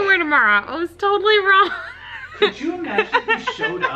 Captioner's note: laughs